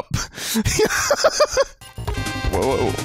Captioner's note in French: Rires